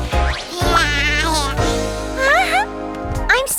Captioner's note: giggling; excited exclaim